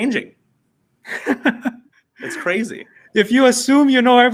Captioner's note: laughing